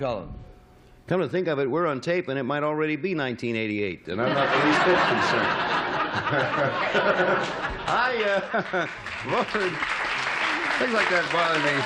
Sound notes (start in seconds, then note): 6.9 laughter